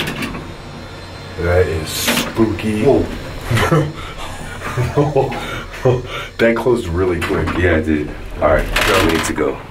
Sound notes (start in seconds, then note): 3.6 nervous giggle